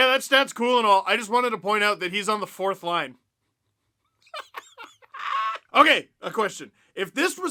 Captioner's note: laughter